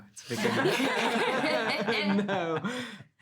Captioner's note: all laughing